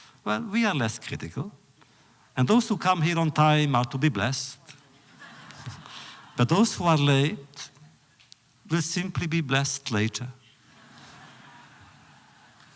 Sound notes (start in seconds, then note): 5.2 laughter; 11.1 audience applause